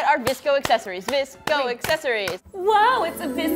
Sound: chants

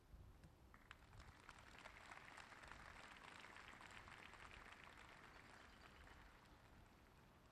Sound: applause

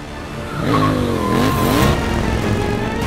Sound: motorcycle racing

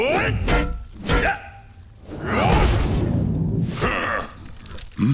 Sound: grunting

